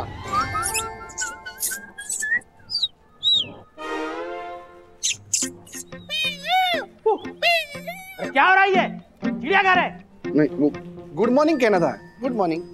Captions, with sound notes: [everyone mimicking birds chirping] [mimicking animal sounds] What is going on? Is this a zoo? No. I just wanted to greet you. Good morning.